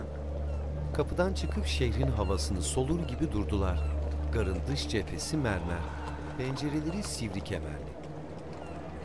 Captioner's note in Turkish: Martı sesi